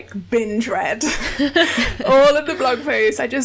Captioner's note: laughs